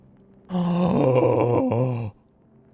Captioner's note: gasps